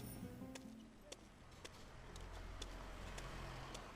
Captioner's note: feet shuffling